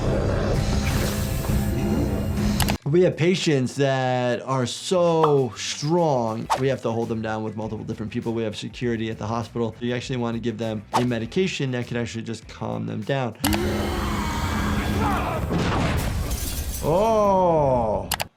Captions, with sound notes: We have patients that are so strong, we have to hold them down with multiple different people. We have security at the hospital. You actually wanna give them a medication that could actually just calm them down. (yelling) Oh.